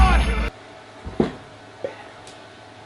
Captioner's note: whispers